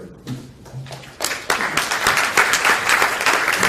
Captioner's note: Aplausse